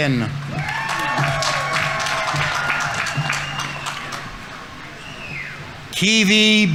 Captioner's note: audience applauding; audience members cheering